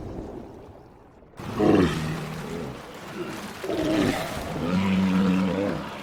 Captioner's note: snorting